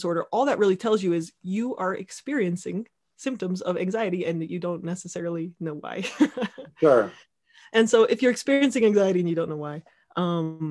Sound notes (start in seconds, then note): 6.3 laughing